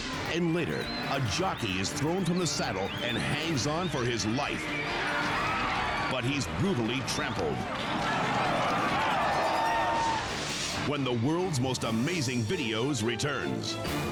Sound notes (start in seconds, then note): 7.9 crowd gasping; 10.2 screen whooshes